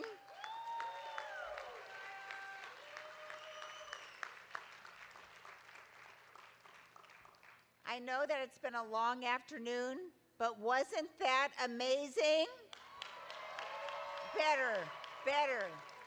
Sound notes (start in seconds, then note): 0.0 audience applauding; 12.7 audience applauding